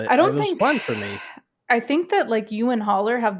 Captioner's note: sighs